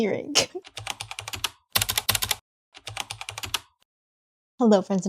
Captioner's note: typing